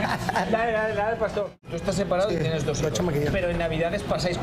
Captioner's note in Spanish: risas